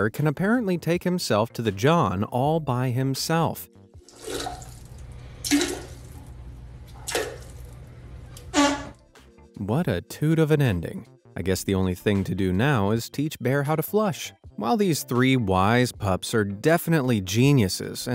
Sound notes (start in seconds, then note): 4.4 plopping sounds; 8.5 farting noise